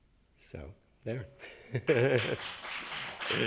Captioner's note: chuckles; attendees applauding